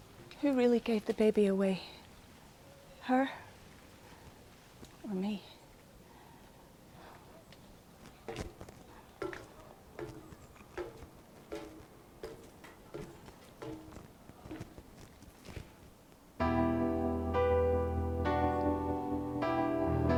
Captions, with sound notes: Who really gave the baby away? Her or me? [footsteps on metal steps] [piano music]